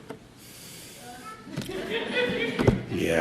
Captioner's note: laughter